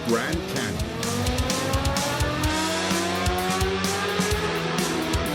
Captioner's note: bike engine roaring